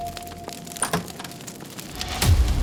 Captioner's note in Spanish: puerta se abre